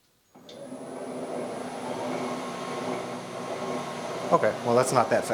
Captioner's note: face plate whirring